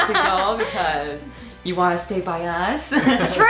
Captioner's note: laughs